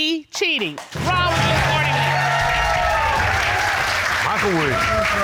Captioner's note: audience cheering